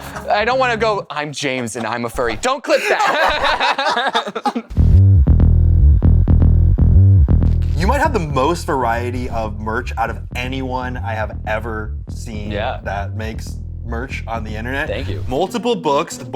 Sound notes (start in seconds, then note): 4.7 laughter